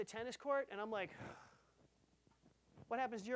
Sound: tired sigh

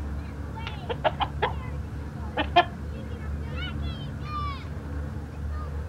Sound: chucking

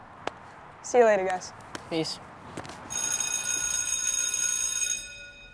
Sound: school bell rings

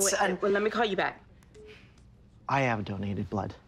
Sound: cellphone beeps

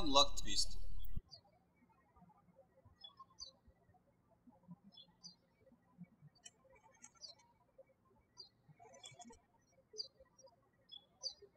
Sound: birds chirping

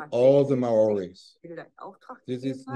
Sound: speaking german

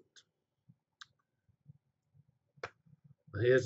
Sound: pause

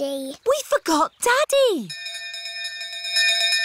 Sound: bell continues dinging

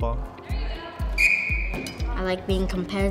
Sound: whistle blows

